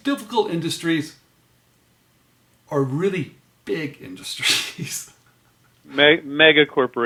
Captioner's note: laughs